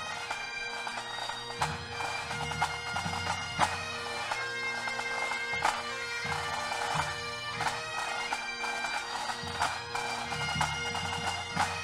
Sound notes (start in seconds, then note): none